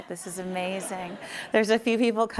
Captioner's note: laughing